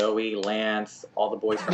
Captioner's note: laughter